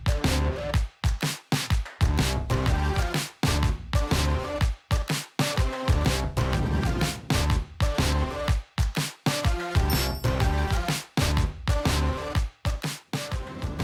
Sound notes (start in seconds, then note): 6.9 electronic whoosh; 9.9 dings